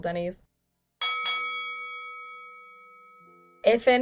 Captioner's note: bell dinging